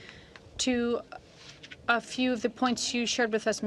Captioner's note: speaking French